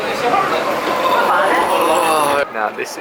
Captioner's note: groan